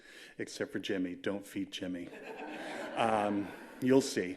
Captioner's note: laughter